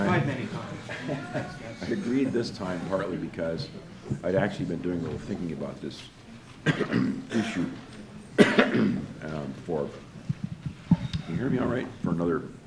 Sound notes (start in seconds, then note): 1.8 laughs; 6.6 coughs; 9.8 microphone adjusts